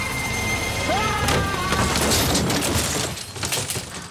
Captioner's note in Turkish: Bağırıyor